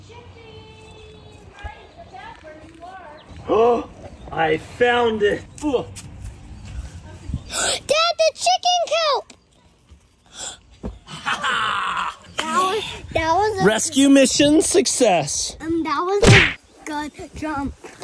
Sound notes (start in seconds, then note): 5.2 gasps